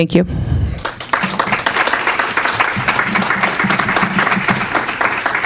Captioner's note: audience clapping